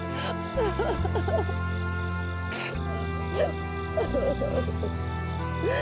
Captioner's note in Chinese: 哭聲